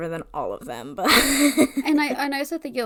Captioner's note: laughs